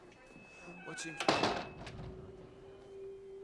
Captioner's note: door closes